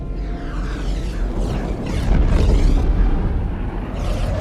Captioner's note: meteor whizzing